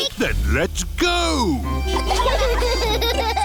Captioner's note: giggling